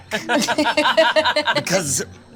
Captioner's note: girls laughing